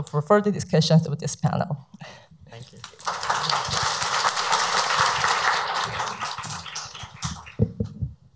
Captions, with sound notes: for further discussions with this panel. Thank you. (audience applauds)